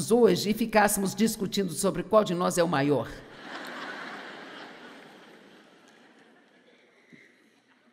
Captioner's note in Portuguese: audiência ri